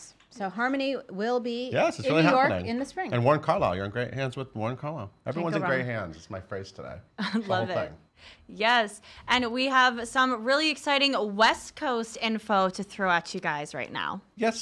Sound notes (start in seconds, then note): 7.1 laughing